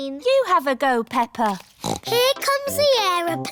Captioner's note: snorts